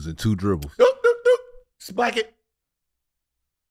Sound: Gilbert stammers

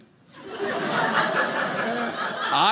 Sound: audience laughing

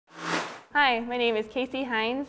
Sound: sound Effects

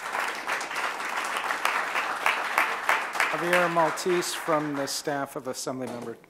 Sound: applause

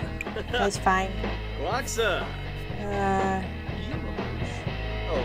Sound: Simlish and music

